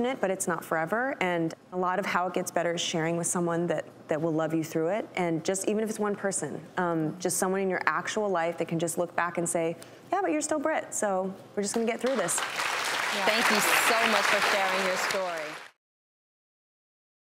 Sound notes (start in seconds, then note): 12.0 audience clapping